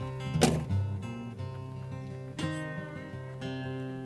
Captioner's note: car door closes